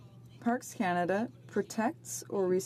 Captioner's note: speaking in French